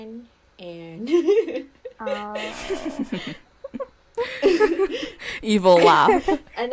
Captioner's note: evil laugh